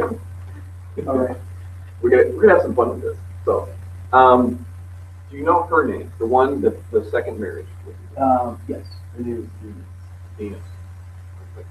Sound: laughs

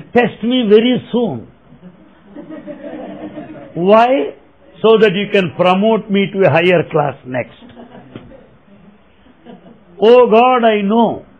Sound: laughter

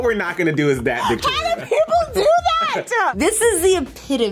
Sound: laughing

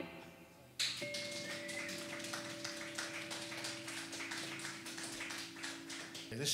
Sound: audience clapping

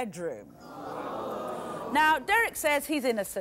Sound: audience gasping

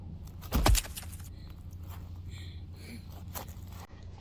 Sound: bones crunch

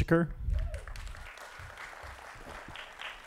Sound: applause

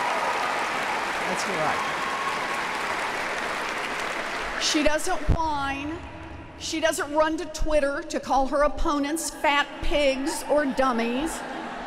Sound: applause

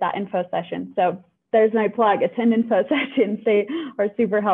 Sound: laughter

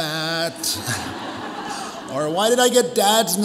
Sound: audience applauds

